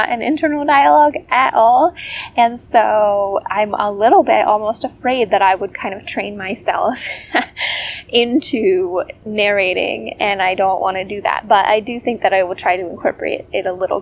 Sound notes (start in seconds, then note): 6.9 laugh